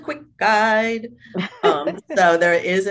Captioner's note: laughs